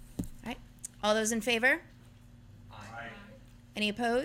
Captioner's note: chorus of ayes